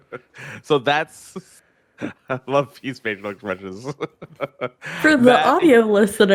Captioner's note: laughs